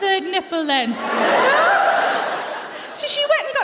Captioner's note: laughter